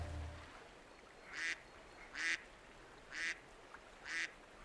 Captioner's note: ducks quacking